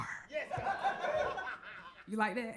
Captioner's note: crowd laughs